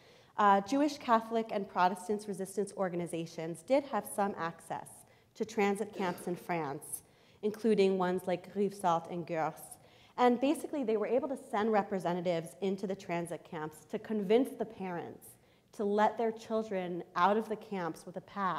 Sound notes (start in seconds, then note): 9.3 foreign language